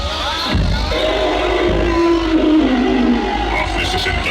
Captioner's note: dinosaur roar